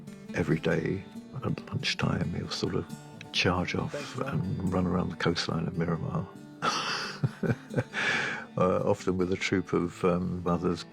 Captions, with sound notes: Every day at lunchtime he'll sort of... ...charge off and run around the coastline of Miramar... [CHUCKLES] ...uh, often with a troop of others...